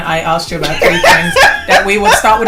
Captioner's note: laughter